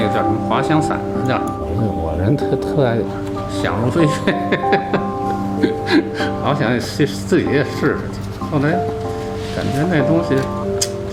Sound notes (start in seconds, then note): 2.9 chuckles